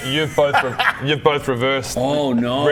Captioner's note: laughs at Rob's pain